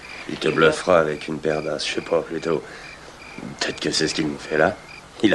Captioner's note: chuckles